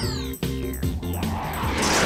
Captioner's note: jazzy music; whooshing